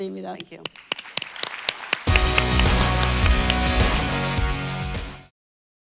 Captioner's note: all clapping; lively music